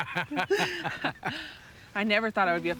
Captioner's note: both laughing